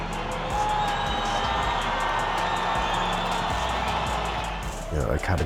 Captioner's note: crowd cheering